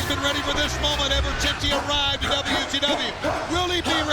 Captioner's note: Tank grunts